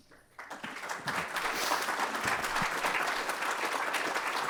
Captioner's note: audience applauds